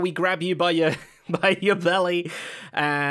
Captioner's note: laughs